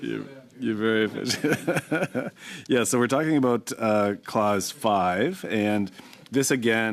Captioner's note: laughter